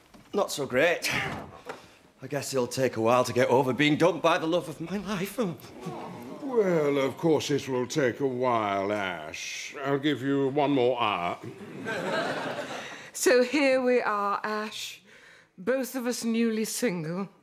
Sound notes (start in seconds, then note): 5.6 others sigh